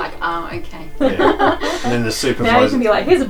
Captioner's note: laughs